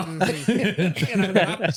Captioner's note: both laughing